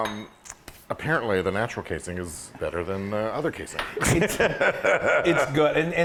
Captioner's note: laugh